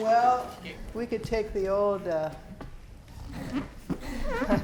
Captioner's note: chuckling